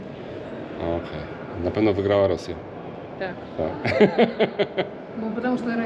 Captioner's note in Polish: śmiech